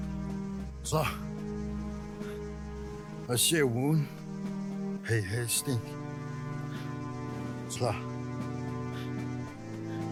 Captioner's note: speaking Cherokee language